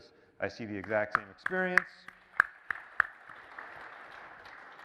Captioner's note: applause